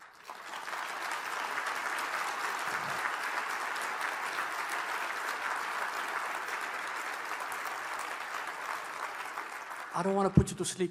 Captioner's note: applause